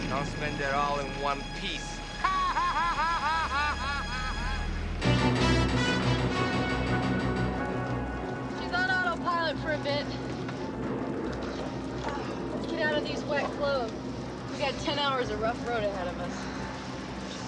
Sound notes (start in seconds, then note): 2.1 laughing; 5.4 dramatic music; 11.6 thunder rolling